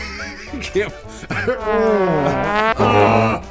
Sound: wheezing; edited in trombone noises

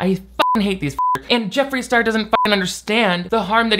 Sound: beep

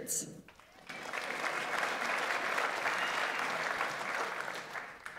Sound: audience applauds

